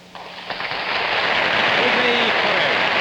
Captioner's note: audience applauding